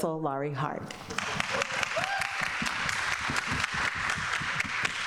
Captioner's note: people clapping